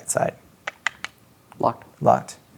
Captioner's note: imitates clicking doorknob